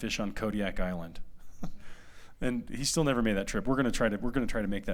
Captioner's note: laughter